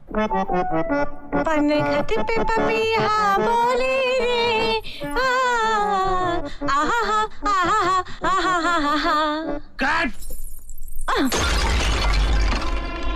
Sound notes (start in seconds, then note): 5.2 humming; 11.2 pot shatters